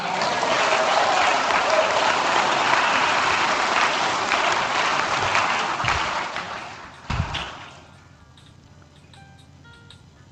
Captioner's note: applause